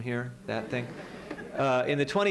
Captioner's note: laughter